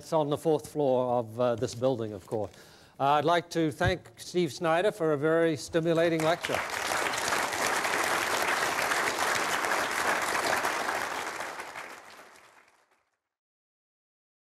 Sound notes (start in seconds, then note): 5.9 applause